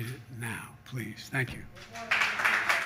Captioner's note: applause